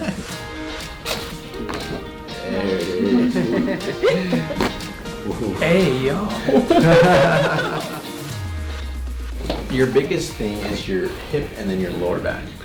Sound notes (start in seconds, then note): 0.0 patient giggles; 0.0 laughs; 0.3 gentle upbeat music; 1.0 neck crunches; 2.6 laughing; 2.7 patient giggling; 4.6 cracking noise; 5.8 laughs